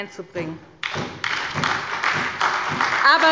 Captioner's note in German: Beifall bei der SPD